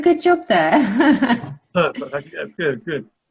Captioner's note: laughter